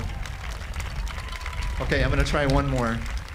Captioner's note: audience applauding